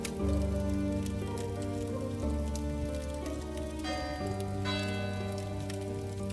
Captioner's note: an old clock chimes midnight